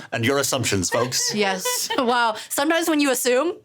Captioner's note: laughing